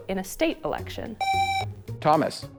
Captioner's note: buzzer